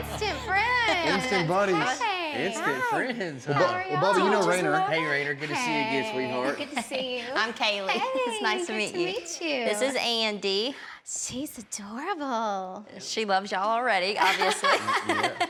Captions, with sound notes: INSTANT BUDDIES. [EVERYONE GREETING] HOW ARE Y'ALL? WELL, BUBBA YOU KNOW RAINER. HEY RAINER, GOOD TO SEE YOU AGAIN SWEETHEART. GOOD TO SEE YOU, I'M KALEY. IT'S NICE TO MEET YOU. HEY... GOOD TO MEET YOU. THIS IS ANDIE. SHE'S ADORABLE. SHE LOVES Y'ALL ALREADY, OBVIOUSLY. [EVERYONE LAUGHING]